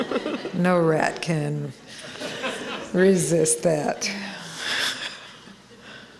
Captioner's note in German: Gelächter